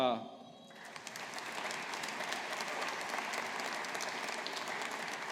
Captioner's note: audience applauding